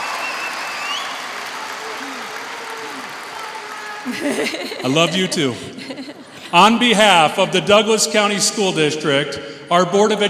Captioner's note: chrs and applaus